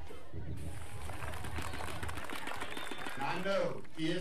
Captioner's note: applause